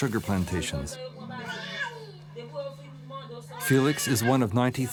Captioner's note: worker speaking in foreign language